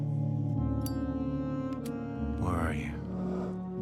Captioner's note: lighter clicking